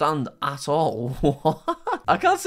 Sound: laughs

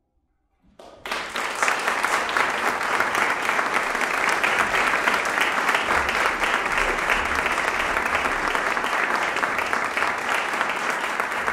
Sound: applause

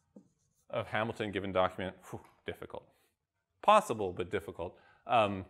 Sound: exhales

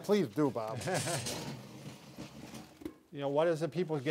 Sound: wheels rolling on floor; chuckling

